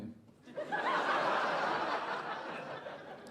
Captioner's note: audience laughing